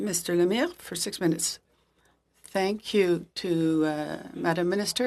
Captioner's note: speaking French